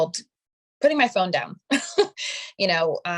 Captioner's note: chuckling